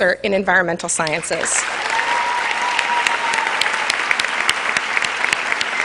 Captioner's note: cheers and applause